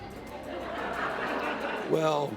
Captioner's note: laughter